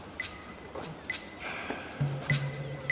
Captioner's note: sniffling